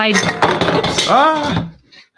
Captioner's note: can crashing